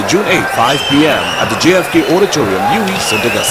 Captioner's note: wild applause and cheering for 22 seconds